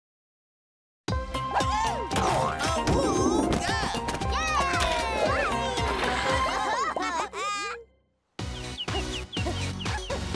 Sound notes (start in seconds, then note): 5.8 cheering; 8.4 birds chirping